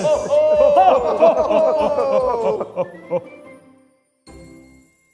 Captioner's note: all ho-ho-hoing